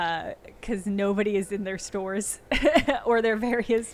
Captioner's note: chuckling